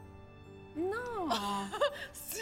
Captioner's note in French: rires